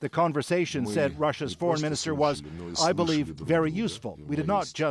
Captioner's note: speaking alternate language